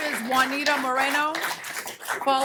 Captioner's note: applause